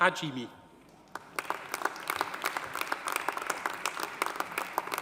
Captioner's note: audience applauding